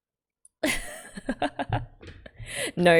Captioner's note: laughs